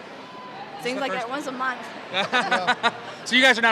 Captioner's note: laughs